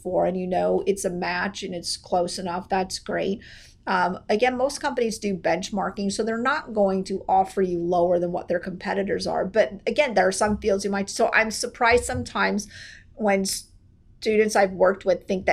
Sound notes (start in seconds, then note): none